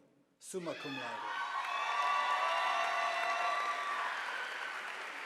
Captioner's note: audience applauding